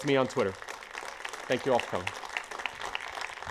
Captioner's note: applause